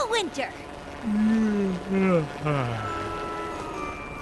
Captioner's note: yawn